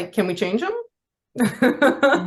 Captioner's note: laughs